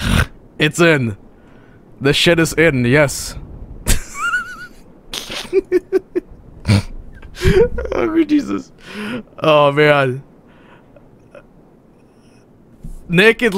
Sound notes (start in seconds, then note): 5.1 laughs